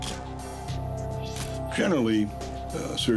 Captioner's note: camera shutter click